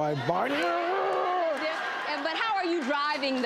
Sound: audience reacts

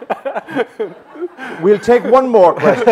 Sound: laughter

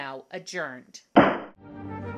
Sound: gavel bangs

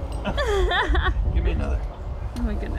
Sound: laughing

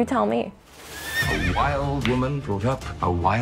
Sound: horse whinnying

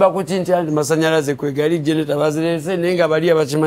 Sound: chatting in Luganda

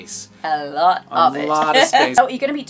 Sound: chuckles

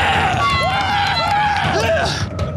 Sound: yells; screams

